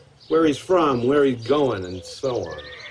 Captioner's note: horse neighing